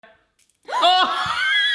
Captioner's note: cracks; yells; laughing